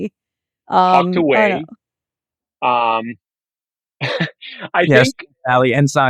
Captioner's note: chuckles